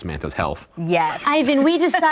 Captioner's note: laughs